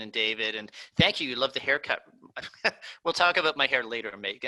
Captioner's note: laughing